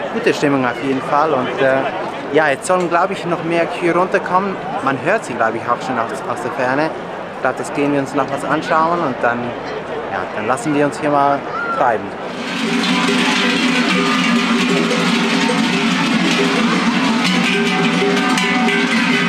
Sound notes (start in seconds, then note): 12.2 cowbells